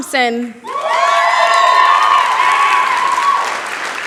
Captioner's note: cheering, applause